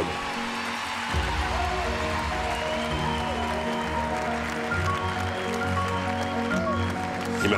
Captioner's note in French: acclamations